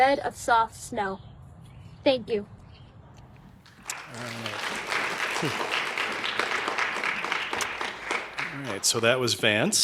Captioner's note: applause